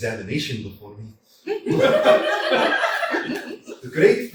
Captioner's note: laughter